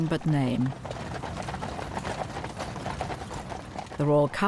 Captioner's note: horse hooves clopping